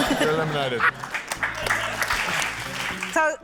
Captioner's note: applause